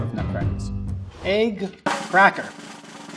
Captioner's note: air whooshing; drum roll tapping